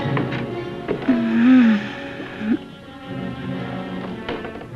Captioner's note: groaning